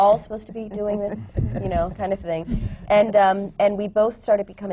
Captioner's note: laughter